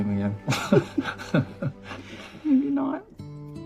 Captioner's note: laughs